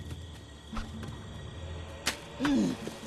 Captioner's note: rock thuds; grunts